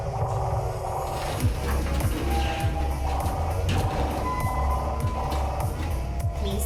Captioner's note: creaking echoes; large equipment shifting